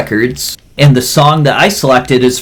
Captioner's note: none